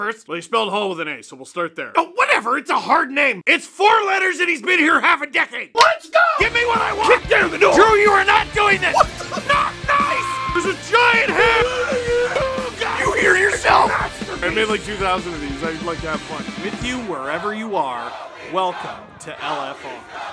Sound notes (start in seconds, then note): 8.9 screaming; 11.8 Harry potter screaming